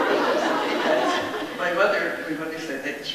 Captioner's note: laughs amusingly; audience laughs